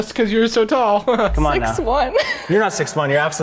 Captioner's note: laughing